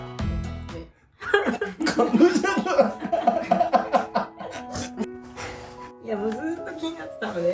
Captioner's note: crying